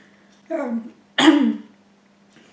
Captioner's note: coughs